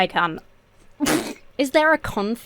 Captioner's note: splutters